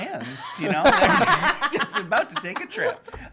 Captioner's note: laughing